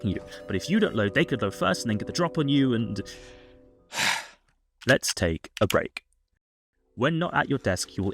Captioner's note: sigh